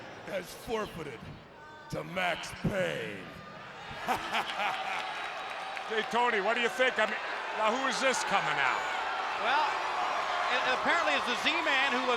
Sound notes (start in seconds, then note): 3.8 spectators cheering; 4.1 laughs